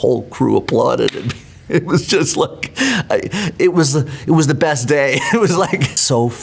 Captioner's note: laughs